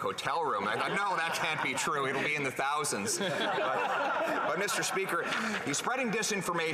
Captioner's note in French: voix de l'interprète